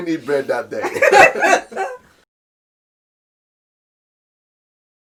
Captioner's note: laughing in unison